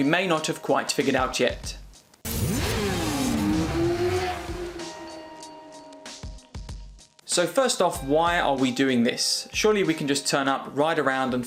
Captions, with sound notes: you may not have quite figured out yet. (engine revving) (upbeat music) So first off, why are we doing this? Surely we can just turn up, ride around,